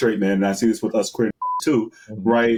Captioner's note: beep